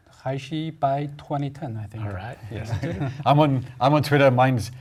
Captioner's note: laugh